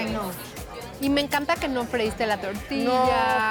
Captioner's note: speaking Spanish